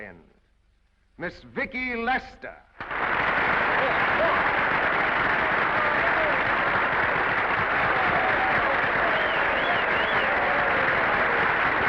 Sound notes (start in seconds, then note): 2.5 audience applauding; 5.1 audience applauding; 5.1 audience whistling